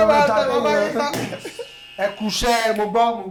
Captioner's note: buzzer sounds